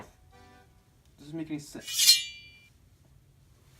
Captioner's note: sword sound